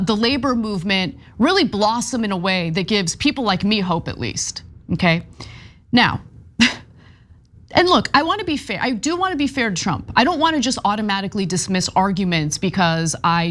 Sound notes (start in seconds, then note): 6.6 laugh